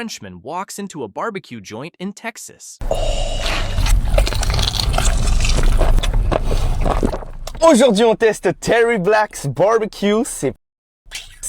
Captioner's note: speaking French